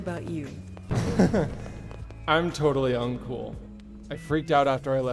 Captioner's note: Aiden laughing nervously